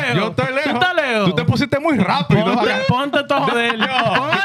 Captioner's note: speaking In Foreign Language